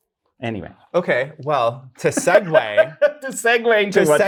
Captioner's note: guy laughs